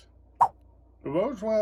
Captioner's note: swipe sound